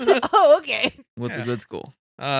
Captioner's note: laughing